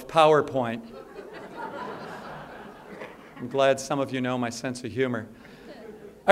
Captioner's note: laugher